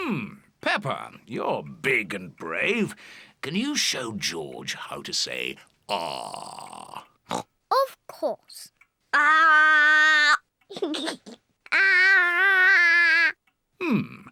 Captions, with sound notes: Hmm, Peppa, you're big and brave. Can you show George how to say, "Ahhh"? (OINKS) Of course. Ahhh! (GIGGLES) Ahhh!